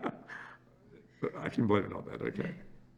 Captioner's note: laughs